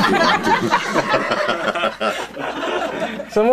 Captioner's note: laughing